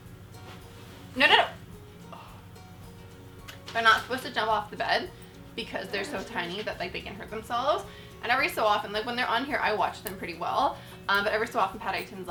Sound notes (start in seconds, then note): 2.1 sigh